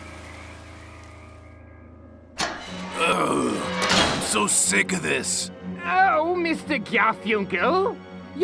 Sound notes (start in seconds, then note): 2.8 groans